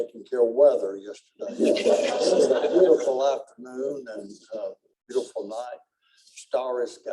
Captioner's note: laughter